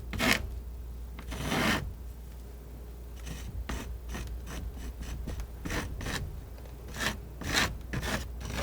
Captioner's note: scratching